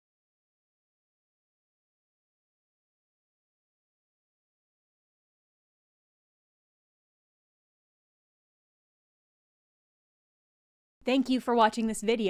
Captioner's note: silence